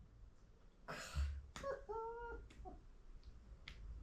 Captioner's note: cries in Korean